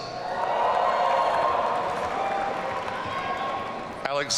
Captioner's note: audience cheering